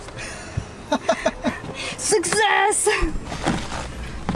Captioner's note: laughter